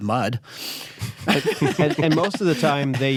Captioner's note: chuckles